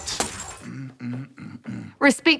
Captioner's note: hums gruffly